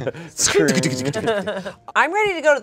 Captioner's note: everyone laughs